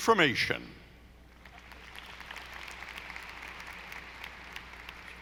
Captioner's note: audience applauding